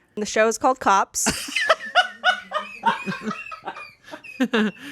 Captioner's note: laughs